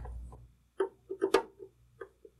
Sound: scraping

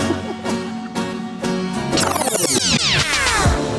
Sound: laughter

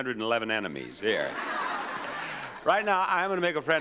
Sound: audience laughs

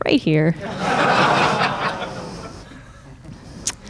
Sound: crowd laughing

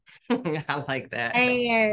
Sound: chuckles

